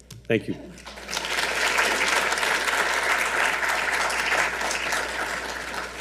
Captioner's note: audience applauding